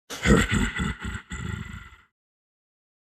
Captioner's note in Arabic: تنحنُح